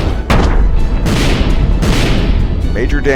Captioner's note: impact; miuffled booms; boom